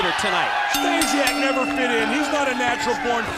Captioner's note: bell ringing